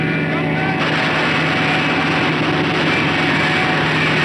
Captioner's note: gunshots